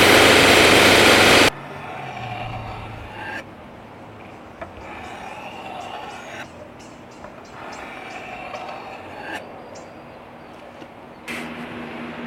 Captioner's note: sharpening noises